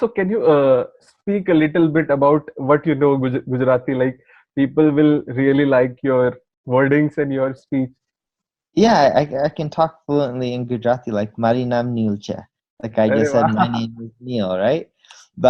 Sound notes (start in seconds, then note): 11.5 speaking Gujarati